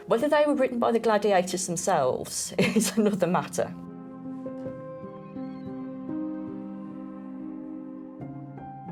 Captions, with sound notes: Whether they were written by the gladiators themselves is another matter. (chuckles) (gentle music continues)